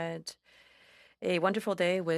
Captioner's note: speaking FRENCH